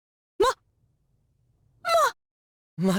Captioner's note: sputtering disbelief